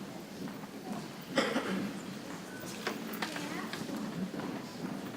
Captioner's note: people chattering softly